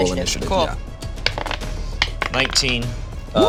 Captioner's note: dice rolling